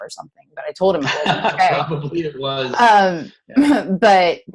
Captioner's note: laughs